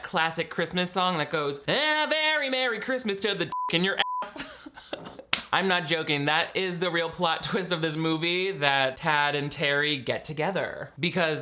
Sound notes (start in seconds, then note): 3.5 beep; 4.2 laughing